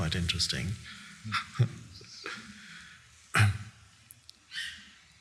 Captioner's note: Eckhart laughing